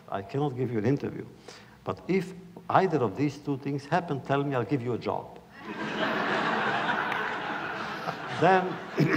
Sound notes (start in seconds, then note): 5.6 laughter